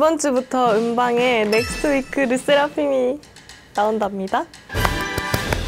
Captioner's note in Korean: 두둥